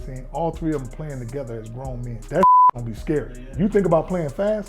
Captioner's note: beep